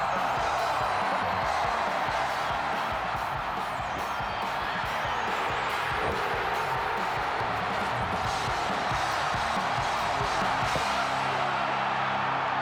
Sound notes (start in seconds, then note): 0.0 crowd cheering; 0.2 upbeat heavy metal music; 6.5 crowd cheering